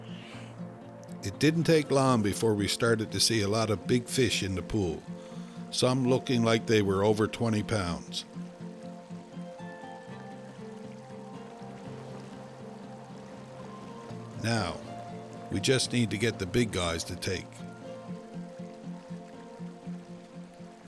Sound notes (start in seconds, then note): 9.5 serene guitar music; 10.0 water dribbling